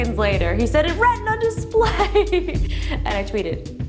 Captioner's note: laughter